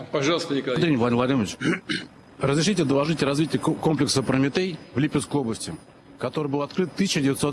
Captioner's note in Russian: откашливается